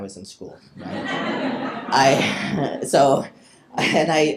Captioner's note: people laughing